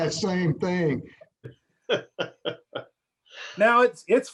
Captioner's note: laughter